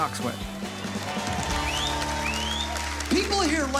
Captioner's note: applause